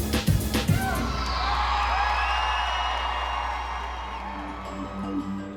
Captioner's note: cheering; applause